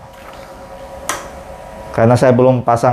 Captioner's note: PET film noise; printer noise